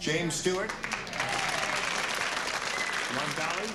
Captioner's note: cheers and applause